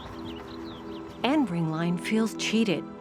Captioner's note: birds chirping